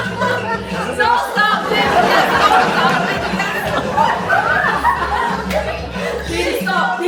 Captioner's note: laugh; laugh